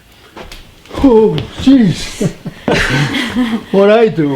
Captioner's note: all laughing